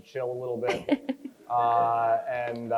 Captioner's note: crowd chuckles